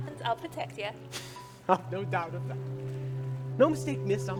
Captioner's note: chuckles